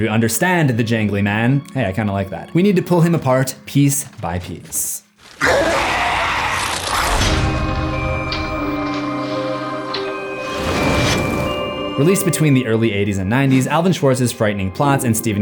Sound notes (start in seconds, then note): 5.3 roar; 6.9 mysterious music